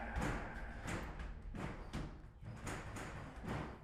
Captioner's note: loud banging